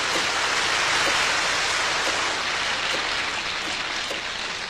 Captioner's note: applause